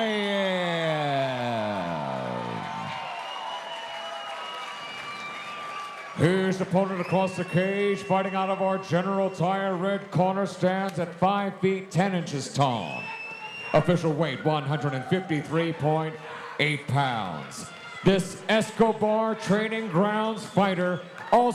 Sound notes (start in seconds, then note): 1.5 audience cheering